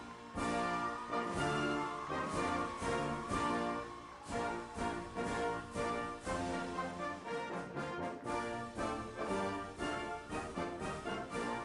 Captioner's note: cheers